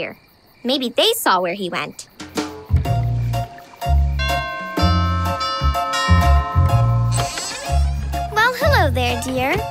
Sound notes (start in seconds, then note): 4.1 ringing